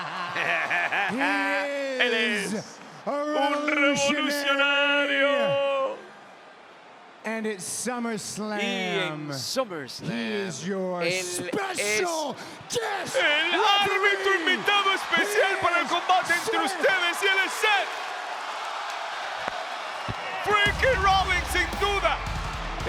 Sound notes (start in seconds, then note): 0.0 laugh